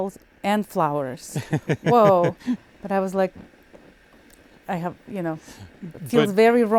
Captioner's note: laughing